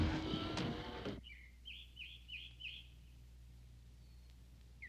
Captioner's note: birds chirping